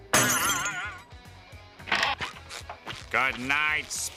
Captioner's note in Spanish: vidrio roto